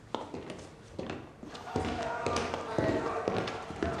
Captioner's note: shouting